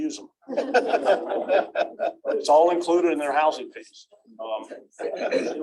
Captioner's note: laughter